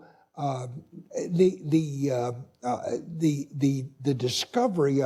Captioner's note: stuttering